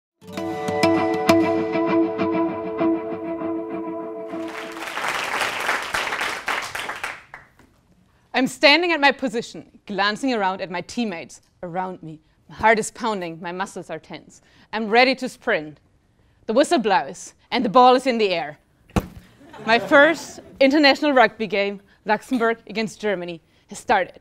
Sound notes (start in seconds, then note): 4.3 applause; 19.4 laugh